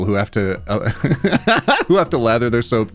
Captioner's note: laughing